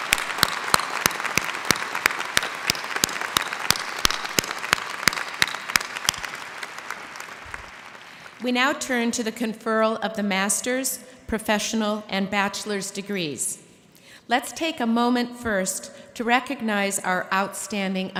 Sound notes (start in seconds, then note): 0.0 applause